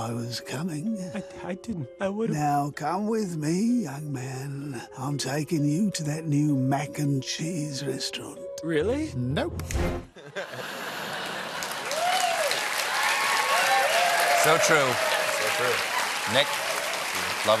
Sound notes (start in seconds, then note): 10.1 laughter; 11.2 cheers and applause